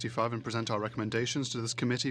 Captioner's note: speaking French